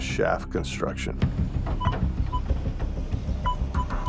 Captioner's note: metal detector beeping